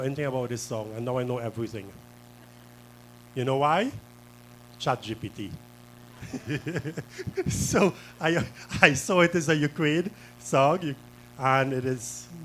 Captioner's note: laughter